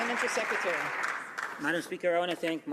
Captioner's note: some Applause